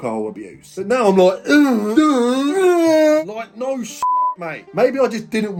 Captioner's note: groaning; beep